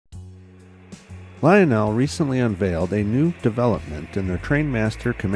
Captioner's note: voiceover